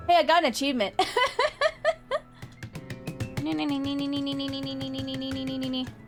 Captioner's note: laughs